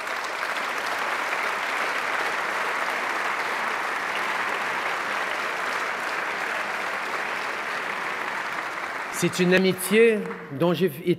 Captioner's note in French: Applaudissements